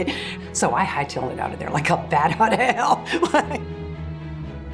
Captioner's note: laughing